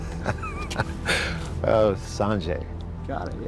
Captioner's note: laughs